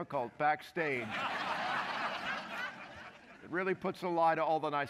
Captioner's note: laughter